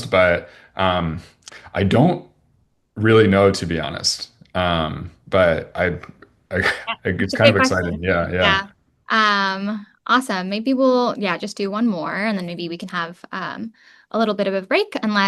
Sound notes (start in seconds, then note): 6.5 chuckles